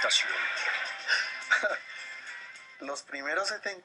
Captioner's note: laughs